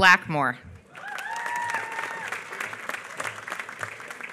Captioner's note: applause